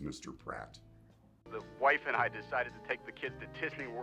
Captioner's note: on phone